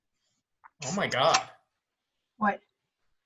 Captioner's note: snap and fizzle of beer can